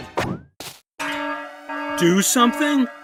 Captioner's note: alarm blares